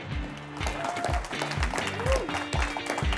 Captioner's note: audience applauding